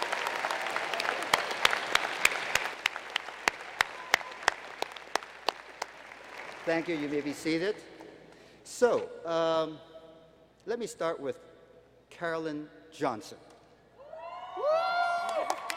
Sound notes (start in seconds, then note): 4.8 applause; 15.0 applause